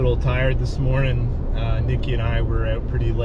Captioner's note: engine revving